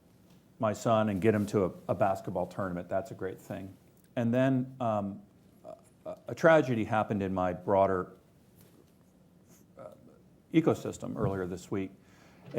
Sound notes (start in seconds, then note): none